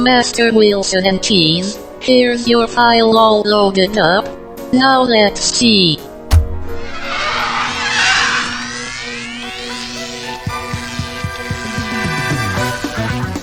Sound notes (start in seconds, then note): 6.2 machine whirring